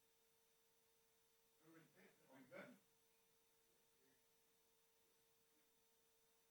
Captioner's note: background chatter